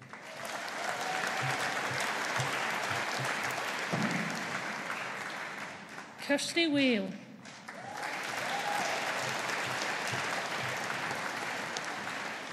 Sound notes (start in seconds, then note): 0.0 audience applauding; 7.4 audience applauding